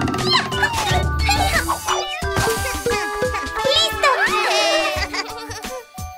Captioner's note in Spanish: Risas Festejos